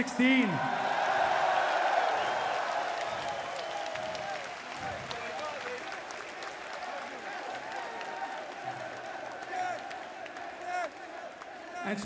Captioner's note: crowd cheering